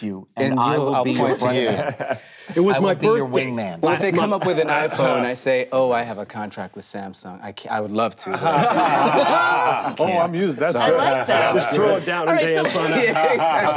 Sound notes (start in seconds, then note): 8.2 group laughing